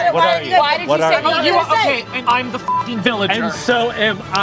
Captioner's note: beep